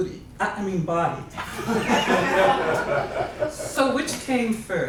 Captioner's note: laughs